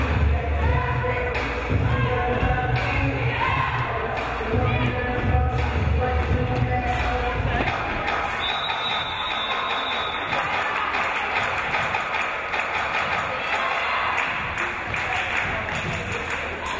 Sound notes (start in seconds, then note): 8.3 whistle blows